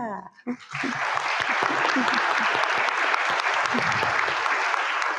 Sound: audience clapping

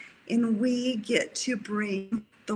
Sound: none

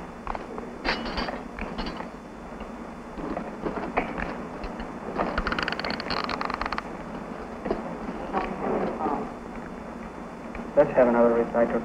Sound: surgical instruments clinking and sound of valve turning

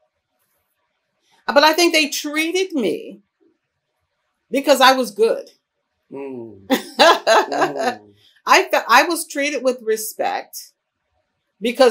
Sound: laughs

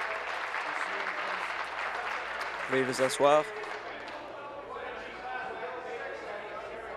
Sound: applause

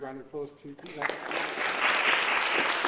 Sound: audience clapping

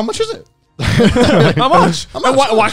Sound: all laughing

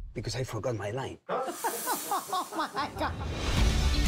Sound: laughs

